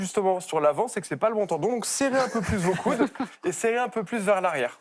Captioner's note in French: rires